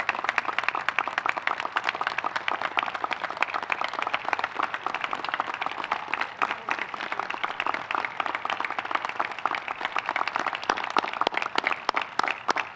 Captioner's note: applause